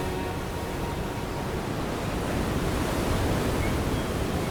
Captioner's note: waves crashing